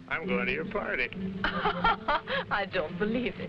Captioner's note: Raina laughing